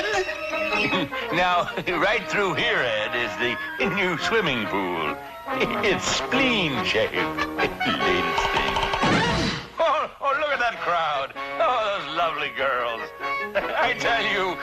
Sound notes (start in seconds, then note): 8.4 door slamming